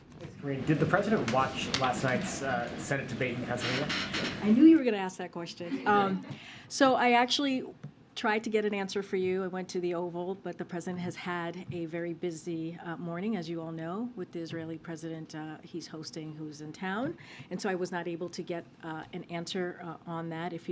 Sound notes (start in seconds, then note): 5.6 laughter